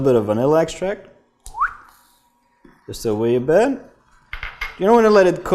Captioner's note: whistles